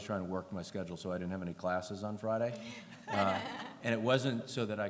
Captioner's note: laughter